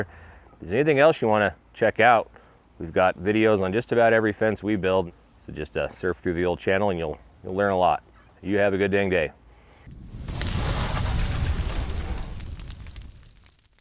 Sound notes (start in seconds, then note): 9.9 logo whooshes